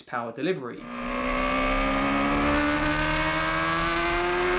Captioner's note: bike engine roaring